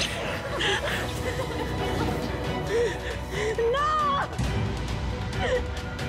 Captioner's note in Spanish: Sollozos